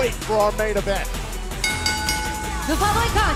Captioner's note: bell ringing